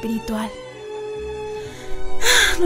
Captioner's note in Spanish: Suspira